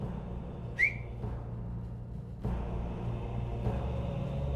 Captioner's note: whistles